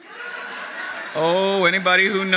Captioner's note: audience laughing